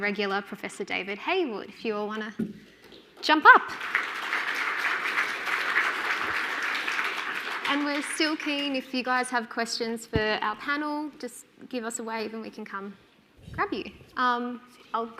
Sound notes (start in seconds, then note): 3.7 audience applauding